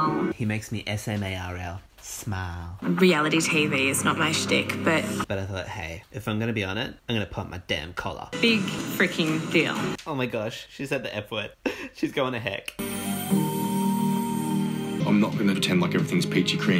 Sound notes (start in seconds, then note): 12.8 owl sound effect